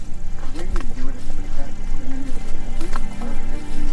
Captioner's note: speaking faintly; mysterious music continues